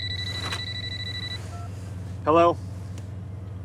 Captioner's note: cellphone ringing